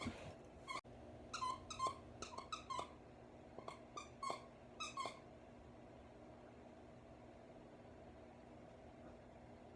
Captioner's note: squeaking; squeaking continues